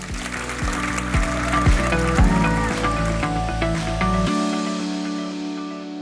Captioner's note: audience applauding